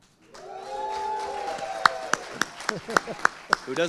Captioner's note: audience cheering; audience applauding